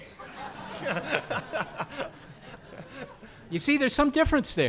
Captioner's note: audience laughing